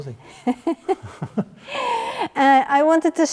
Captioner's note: both chuckle